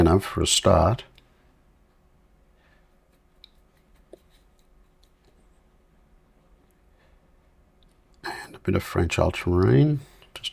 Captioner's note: silence